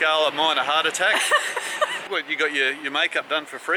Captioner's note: laughing